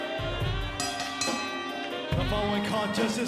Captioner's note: bell ringing